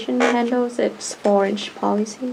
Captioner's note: laughs